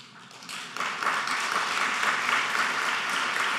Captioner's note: applauding